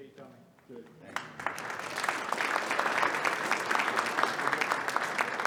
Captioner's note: audience applauding